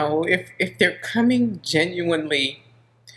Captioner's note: none